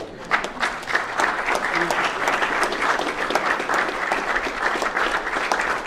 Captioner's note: applause